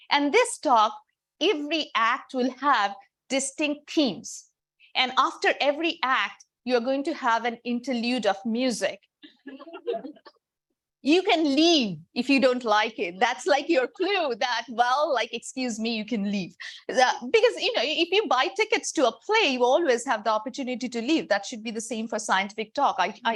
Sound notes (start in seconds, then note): 9.4 audience laughing